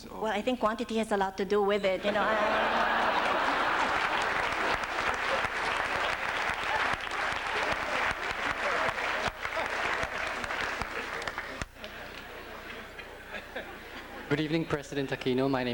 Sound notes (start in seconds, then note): 2.0 laughter; 3.9 applause